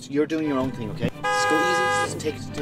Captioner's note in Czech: auto zatroubí